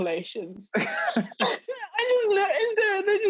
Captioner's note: laughing